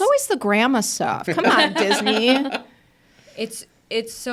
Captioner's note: participants laughing